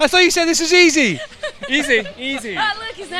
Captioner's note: laughter